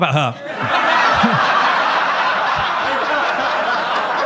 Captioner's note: audience laughs